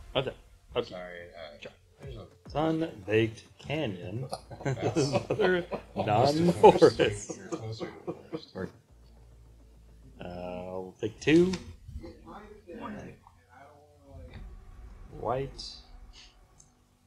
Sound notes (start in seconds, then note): 6.7 laughing